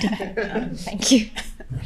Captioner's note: participants laughing